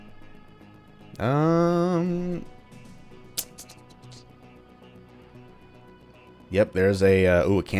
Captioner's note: thinking noises